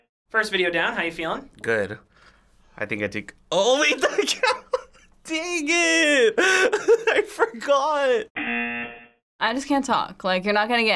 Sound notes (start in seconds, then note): 5.3 laughs; 8.4 buzzer